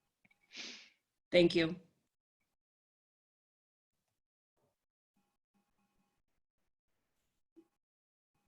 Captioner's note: long Pause